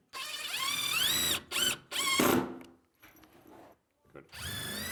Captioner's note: drilling sounds